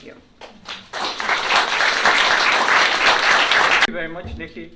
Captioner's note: applause